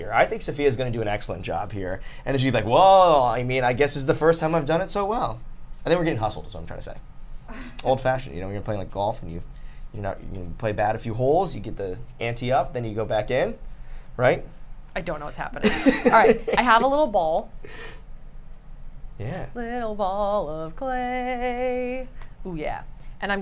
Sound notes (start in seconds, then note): 15.6 laughs